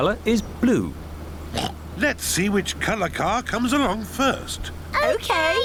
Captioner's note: oinks